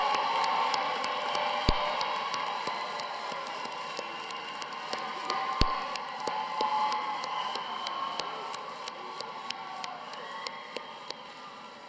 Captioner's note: cheers and applause